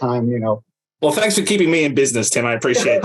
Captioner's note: laughs